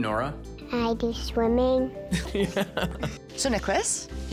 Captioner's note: dad laughs